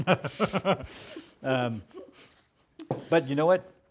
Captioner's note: laughter